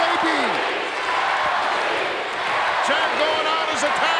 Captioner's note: crowd chants